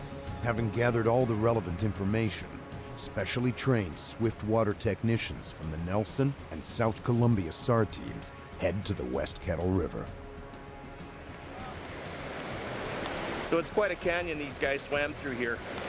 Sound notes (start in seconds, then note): 10.8 voiceover